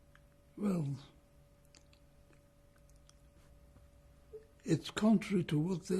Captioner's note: pauses for 3 seconds